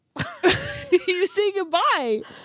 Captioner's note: laughing